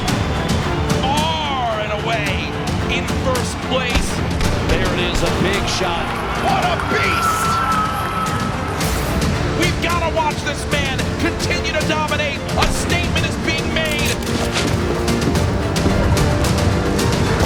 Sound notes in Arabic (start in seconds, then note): 7.5 تشجيع الأسرة والجمهور